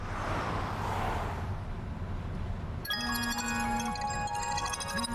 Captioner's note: traffic whooshing; phone ringing